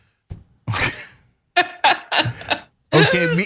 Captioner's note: laugh